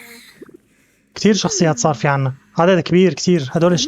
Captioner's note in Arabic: آهات; تنهدات; صرخات